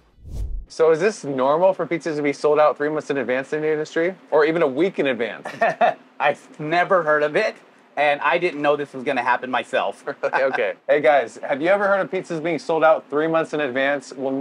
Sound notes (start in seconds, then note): 5.4 laughs